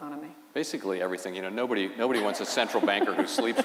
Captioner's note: laughter